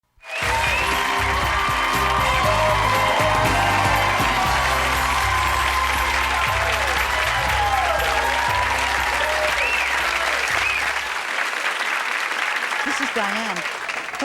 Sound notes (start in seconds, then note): 0.0 audience applauding; 0.0 upbeat music